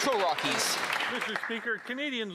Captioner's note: applause